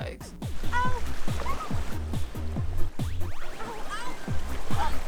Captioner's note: Allison screaming